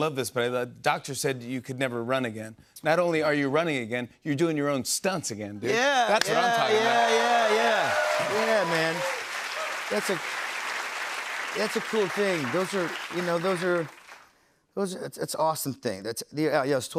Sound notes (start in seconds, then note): 7.0 cheers and applause